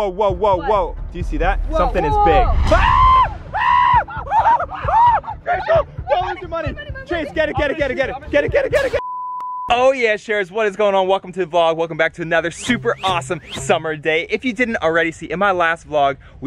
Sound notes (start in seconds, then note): 2.1 screaming